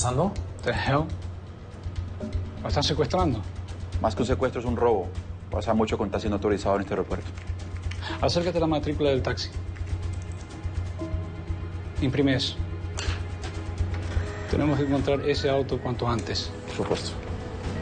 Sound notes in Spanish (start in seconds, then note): none